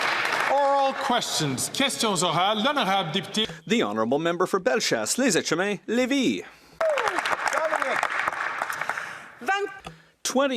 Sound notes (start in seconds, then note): 0.0 some Applause; 4.4 speaking French; 10.0 some Applause